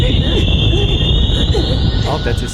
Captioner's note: grunting